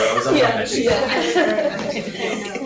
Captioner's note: laughter